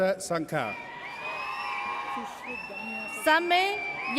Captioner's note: audience cheers